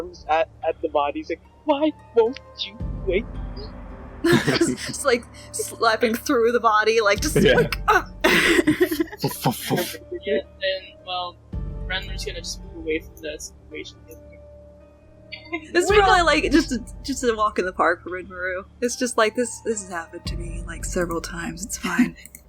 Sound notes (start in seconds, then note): 9.0 foof foof foof